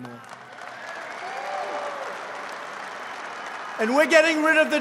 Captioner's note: applause